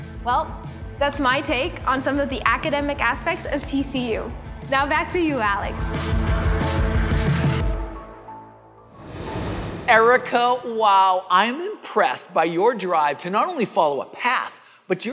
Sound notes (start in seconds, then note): 6.5 upbeat music; 8.9 air swooshing